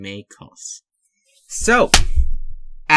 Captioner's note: clap